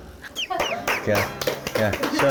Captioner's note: applause